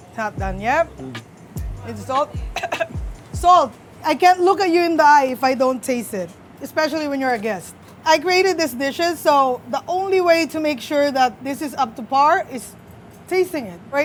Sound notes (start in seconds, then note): 2.3 coughs